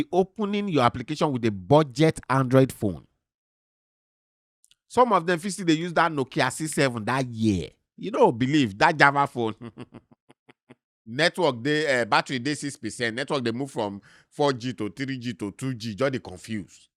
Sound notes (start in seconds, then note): 4.6 smacks lips; 9.3 chuckles